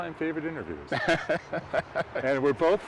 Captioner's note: laughs